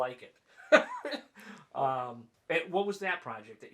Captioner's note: laughing